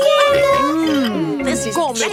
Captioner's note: snorts